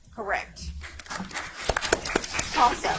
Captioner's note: audience applauds